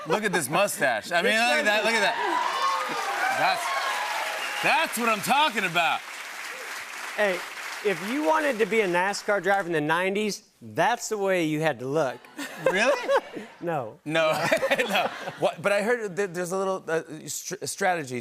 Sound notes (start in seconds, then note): 2.4 cheers and applause; 12.3 laughter